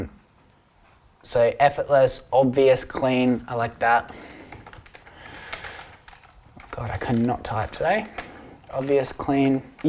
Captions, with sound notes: So effortless, obvious, clean. I like that. (typing) God, I can not type today. Obvious Clean.